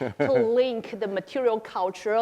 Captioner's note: laughing